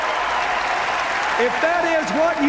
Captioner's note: applause